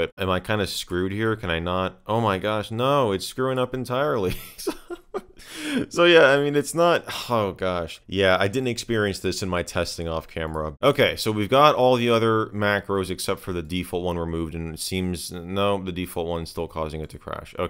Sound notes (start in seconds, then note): 4.3 laughing